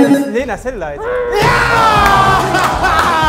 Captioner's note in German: brüllt mit vollem Mund; Jubel